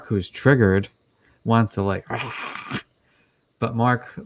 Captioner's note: roars